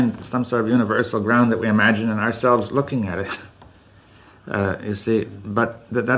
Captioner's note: laughs